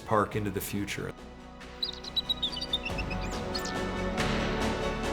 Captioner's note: eagle calls